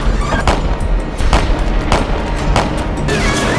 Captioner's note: guns firing